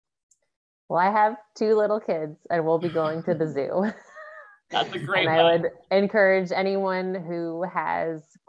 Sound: laughs

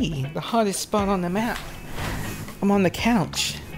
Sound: shifting of cotton

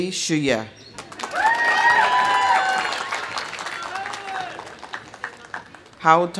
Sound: audience applauding; audience cheering

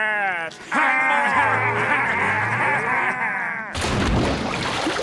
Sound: laughing

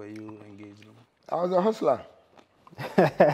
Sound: laughter

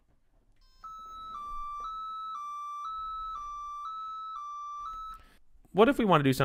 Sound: beeping

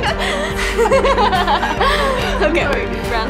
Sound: laughing

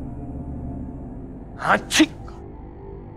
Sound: sneezing

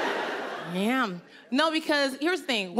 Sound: audience laughing

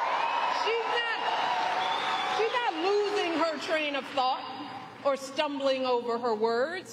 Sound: applause

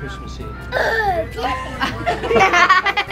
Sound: child screams; people laugh

